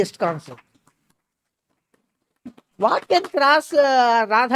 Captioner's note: claps